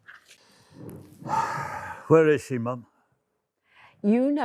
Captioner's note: sighs